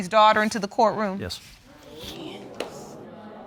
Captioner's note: audience murmurs